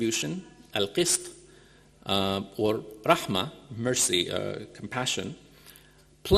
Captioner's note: speaking in foreign language